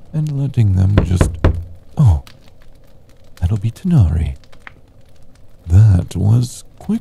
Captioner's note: knocking at door